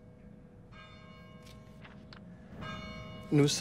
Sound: bell tolling

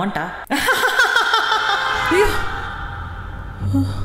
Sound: Boss laughing out loud

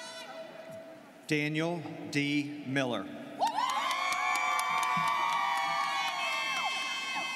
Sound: students cheering

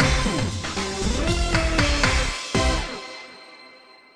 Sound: clap

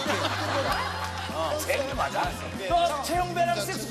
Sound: laughing

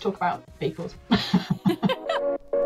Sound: laughter

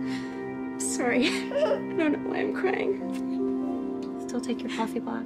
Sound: sobbing

